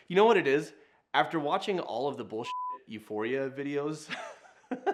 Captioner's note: beep